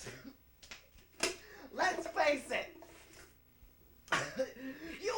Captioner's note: cough